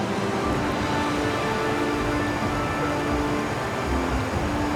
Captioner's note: rapids crashing